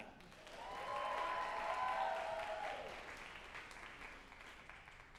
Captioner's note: group applauding and cheering